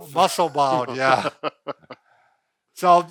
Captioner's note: laughing